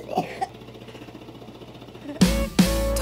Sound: coughing; vest machine vibrating

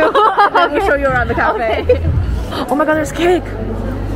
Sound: hahaha

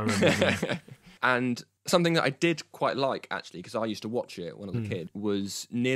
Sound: laughs

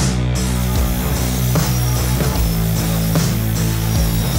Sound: saw buzzing

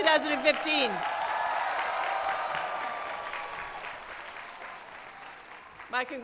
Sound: applause

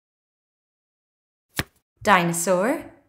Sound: the sound of a card being turned over can be heard

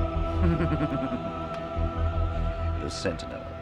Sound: Xax snickers

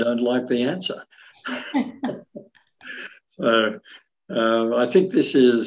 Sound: both laughing

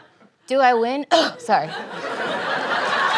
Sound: coughs

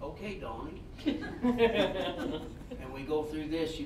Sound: all laughing

